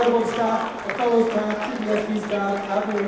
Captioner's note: applause